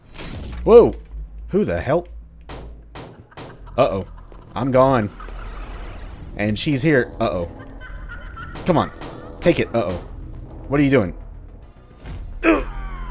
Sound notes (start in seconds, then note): 0.1 door shatters; 2.9 whacking in vain, psychic mutant laughing; 7.3 more taunting laughter; 8.5 more in vain whacking